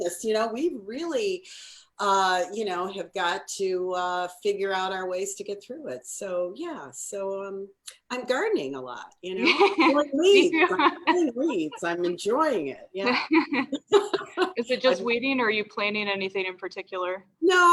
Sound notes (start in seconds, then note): 9.3 laughs; 13.0 laughing